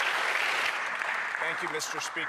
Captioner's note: some Applause